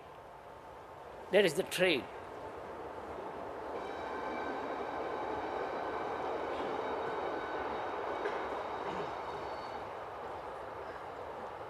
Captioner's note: noise of train passing